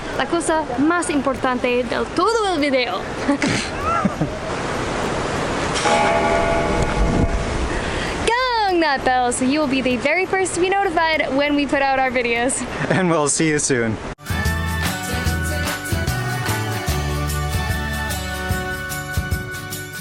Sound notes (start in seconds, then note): 3.2 laughter; 5.8 bell Ringing